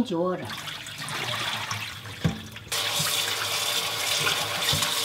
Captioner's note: water sloshing